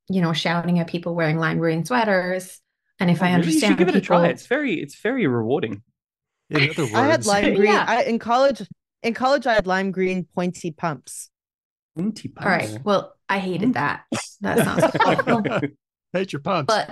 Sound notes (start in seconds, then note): 14.4 laughter